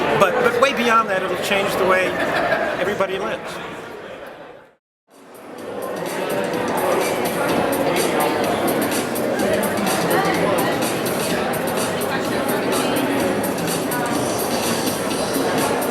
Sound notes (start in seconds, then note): 4.9 attendees chatting; 10.6 upbeat music